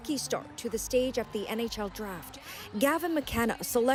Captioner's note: cheers and applause